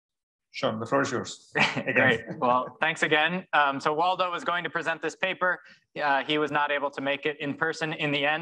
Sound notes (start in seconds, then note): 1.5 chuckling